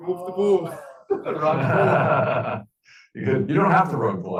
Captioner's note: class laughing